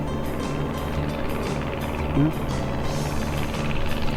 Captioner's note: airplane rumbling